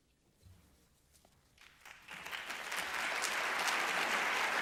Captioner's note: applause